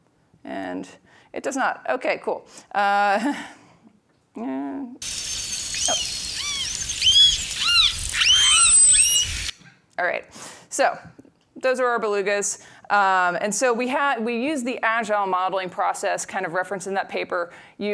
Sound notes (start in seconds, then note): 3.3 laughs; 5.0 belugas vocalizing